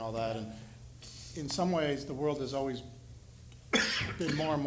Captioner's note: coughs